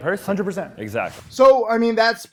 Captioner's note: air whooshes